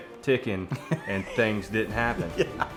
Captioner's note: laughing